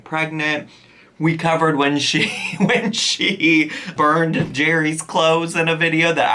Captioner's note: chuckling